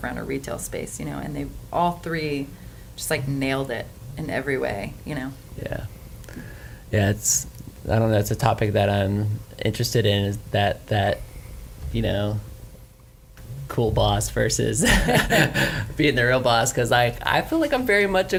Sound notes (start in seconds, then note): 14.8 laughs